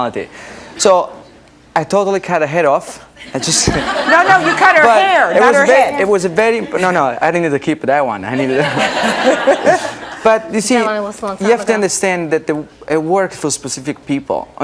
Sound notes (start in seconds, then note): 3.3 audience laughing; 8.4 chuckling